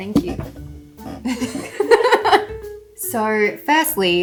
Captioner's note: laughing